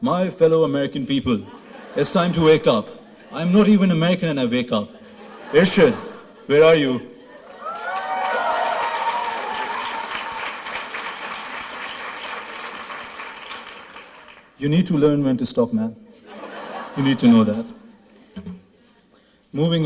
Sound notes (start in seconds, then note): 7.6 applause